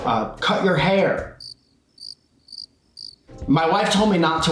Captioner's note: crickets chirp